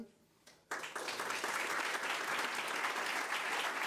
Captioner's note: crowd applause